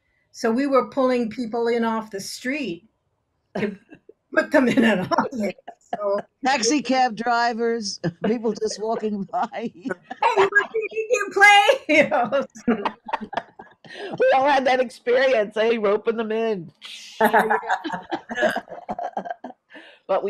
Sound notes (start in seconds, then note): 4.6 laughs; 8.0 laughs; 17.2 all laughing